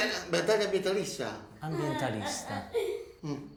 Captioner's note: Felix laughs